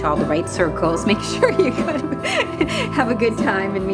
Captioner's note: laughing